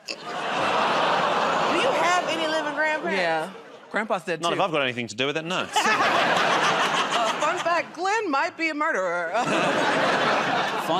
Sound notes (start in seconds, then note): 5.7 laughter; 9.3 laughter